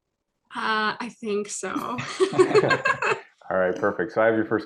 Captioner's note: laughs